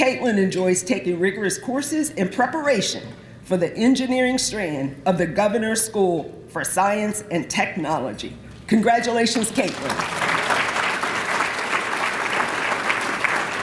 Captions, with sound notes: Caitlyn enjoys taking rigorous courses in preparation for the Engineering Strand of the Governor's School for Science and Technology. Congratulations, Caitlyn. (applause)